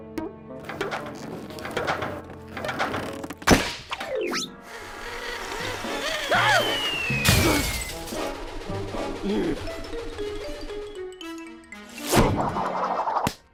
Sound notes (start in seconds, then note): 5.4 gasps; 8.4 sighs